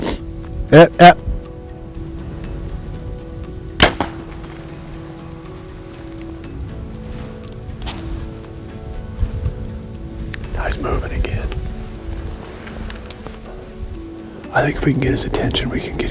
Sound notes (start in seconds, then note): 1.5 soft music; 3.8 sound of bowshot; 4.8 soft music